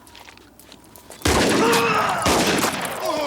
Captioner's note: town member groans; gun fires; guns fire; town members groan